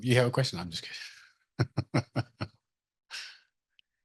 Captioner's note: laughs